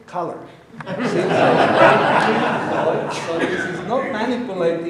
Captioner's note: audience laughing